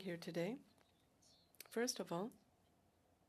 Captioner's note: speaking French